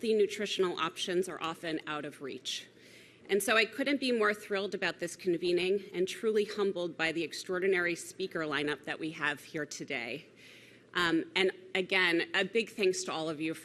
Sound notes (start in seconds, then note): none